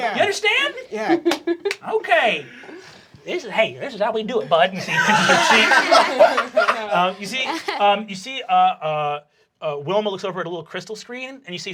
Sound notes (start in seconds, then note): 4.7 everyone laughing